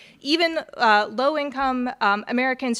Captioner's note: none